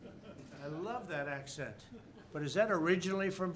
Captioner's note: laughter